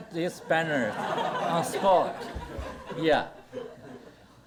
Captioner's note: audience laughter